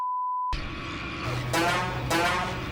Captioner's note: gun fires